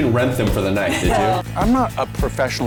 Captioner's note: family laughing